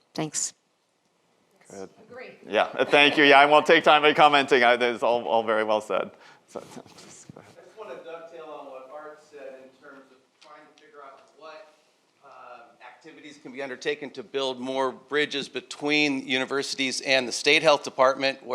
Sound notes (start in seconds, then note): 2.7 audience laughs